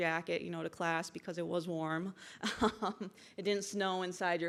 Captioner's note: chuckles